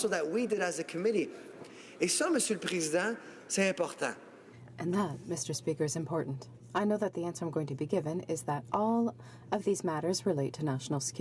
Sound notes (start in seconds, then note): 5.8 speaking French